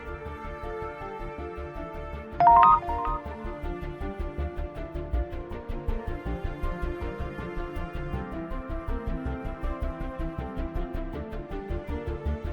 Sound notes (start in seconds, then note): 2.4 text sound; 4.0 intense music